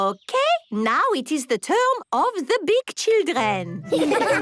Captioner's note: laughter